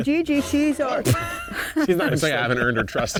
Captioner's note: laughs